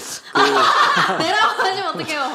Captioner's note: laughter